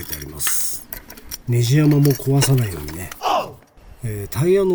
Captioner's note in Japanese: おうっ！